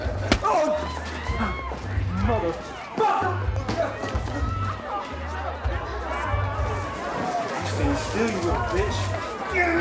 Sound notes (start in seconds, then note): 0.0 men laughing; 3.8 patrons shouting